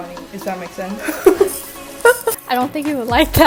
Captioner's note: nervous laughter